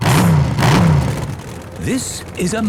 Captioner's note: engines revving